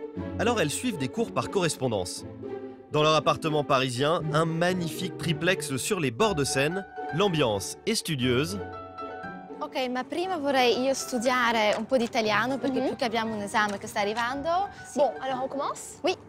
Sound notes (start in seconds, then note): 9.7 speaks in Italian